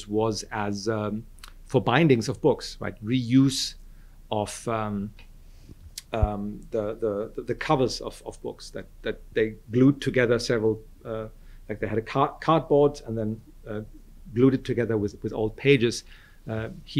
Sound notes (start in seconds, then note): none